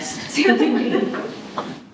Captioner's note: laughing